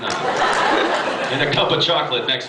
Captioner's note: laughs